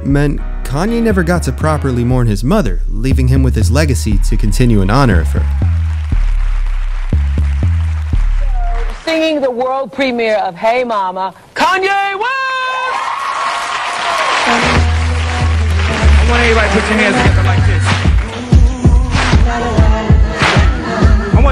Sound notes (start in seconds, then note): 5.8 audience Cheering; 12.3 audience Cheering; 18.0 audience Clapping